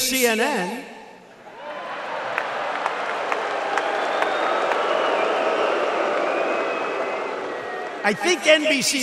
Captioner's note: applause